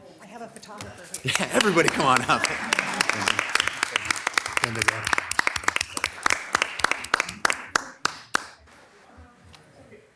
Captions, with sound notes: I have a photographer. - Yeah, everybody come on up! (members clapping)